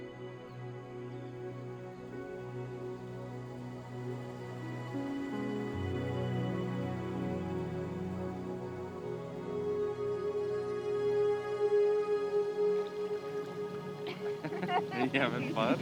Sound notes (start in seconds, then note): 3.5 gentle Music; 7.2 laughing